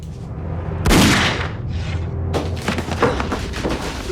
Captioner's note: gun firing; grunting